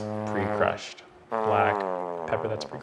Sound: horn blowing

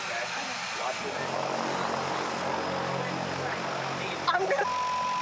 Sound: engine noise; beep

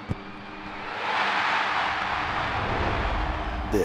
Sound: crowd cheering

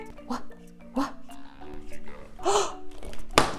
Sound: gasps

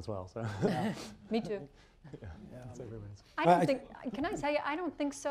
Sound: laughter

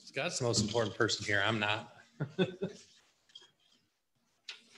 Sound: chuckles

